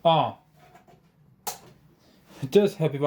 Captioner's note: power supply switch